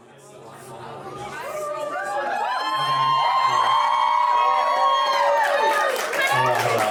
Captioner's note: cheering